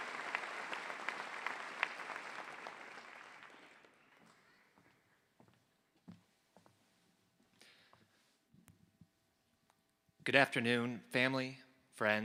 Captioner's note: applause